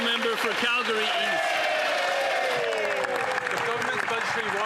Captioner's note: some Applause